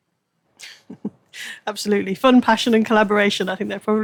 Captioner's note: laughs